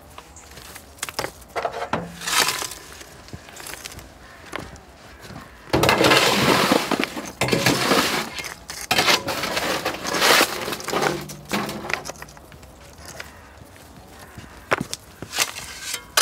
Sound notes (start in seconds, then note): 5.8 rattle